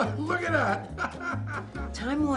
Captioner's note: laughs